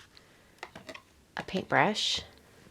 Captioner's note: brush rattling